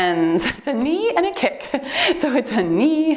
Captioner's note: timer beeps; laughs